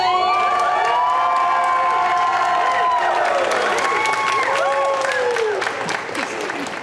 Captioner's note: cheering